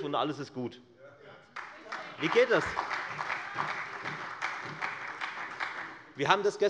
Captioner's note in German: Beifall bei der FDP und der SPD